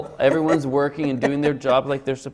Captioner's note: laughs